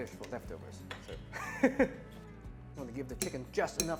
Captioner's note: chuckles